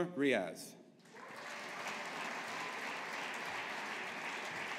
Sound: audience applauding

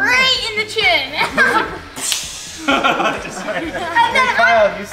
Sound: laughing

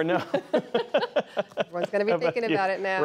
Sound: laughter

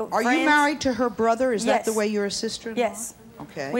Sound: none

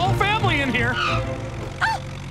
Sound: gasping

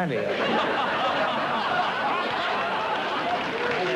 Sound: laughter

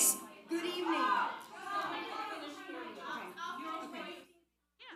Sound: audience clamoring

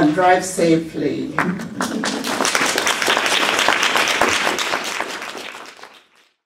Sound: applause

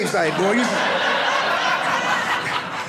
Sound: audience laughing

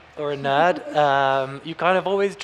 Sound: chuckling

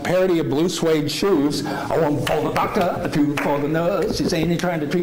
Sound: clapping

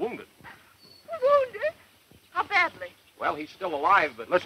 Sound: gasp

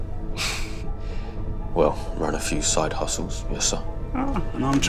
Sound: small laugh

